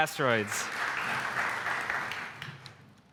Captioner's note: applause